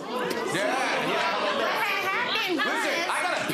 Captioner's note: audience ooohs